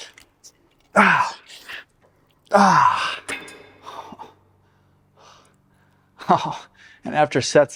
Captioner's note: breathing